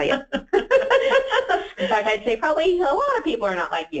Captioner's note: laughs